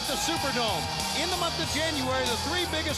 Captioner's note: crowd cheering